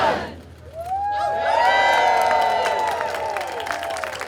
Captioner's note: cheers and applause